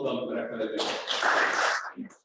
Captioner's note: applause